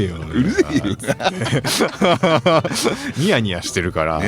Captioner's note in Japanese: 笑い